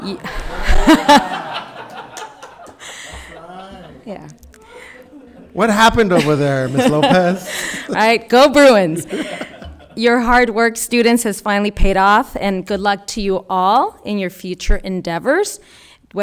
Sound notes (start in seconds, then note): 0.0 spectators laughing; 9.4 laughing